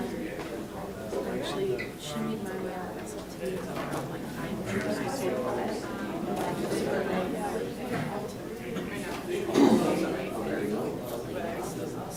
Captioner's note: talking amongst audience